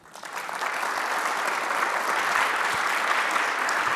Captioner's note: audience applauding